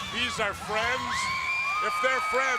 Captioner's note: crowd cheering